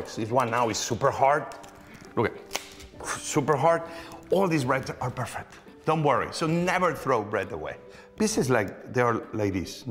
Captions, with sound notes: This one now is super-hard. Look it. (snaps loudly) Super-hard. All these breads are perfect, don't worry. So never throw bread away. This is, like, they are like this--